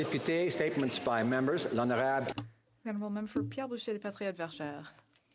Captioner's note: some Applause